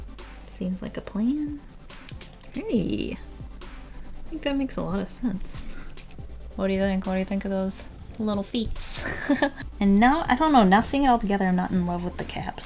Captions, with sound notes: Seems like a plan. Hey! I think that makes a lot of sense What do you think? What do you think of those little feets? [Laughs] And now I don't know, now seeing it all together, I'm not in love with the cap sleeve...